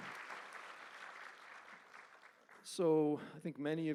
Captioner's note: applause